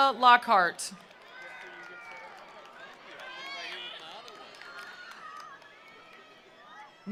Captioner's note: attendees applauding; attendees cheering